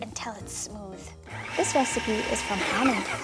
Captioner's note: food processor whirring